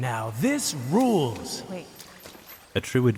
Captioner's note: water splashes